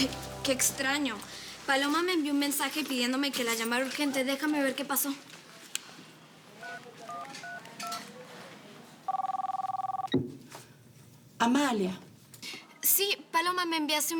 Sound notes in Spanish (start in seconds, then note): 5.6 Sonido al marcar números; 9.0 Suena el teléfono